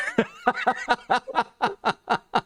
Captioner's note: laughter